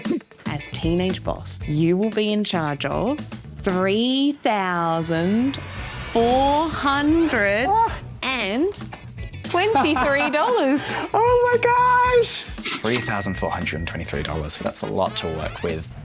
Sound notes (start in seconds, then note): 9.6 laughs